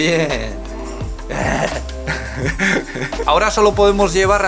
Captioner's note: repeats it and starts laughing